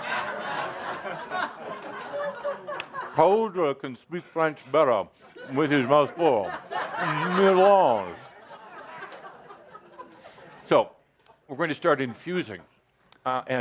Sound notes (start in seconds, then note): 2.1 much laughter; 9.8 more laughter